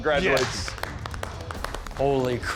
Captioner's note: applause